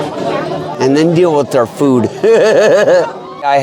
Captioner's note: laughs